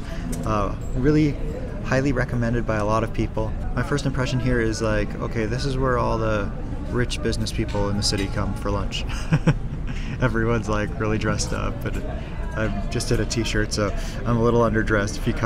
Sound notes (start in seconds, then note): 9.0 laughs